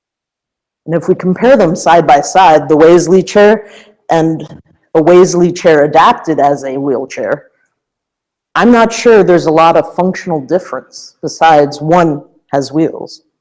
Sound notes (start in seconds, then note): none